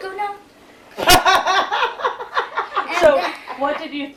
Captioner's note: Dorene laughing